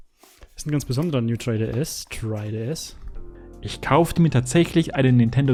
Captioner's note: voiceover